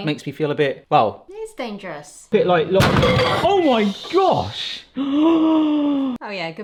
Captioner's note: gasps